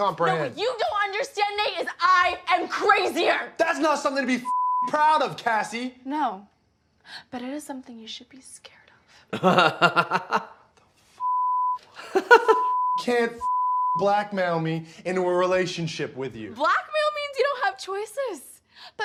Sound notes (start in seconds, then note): 4.5 beep; 9.3 laughing; 11.2 beep; 13.4 beep